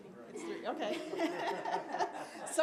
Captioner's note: mans speaks softly; audience laughs; audience chuckles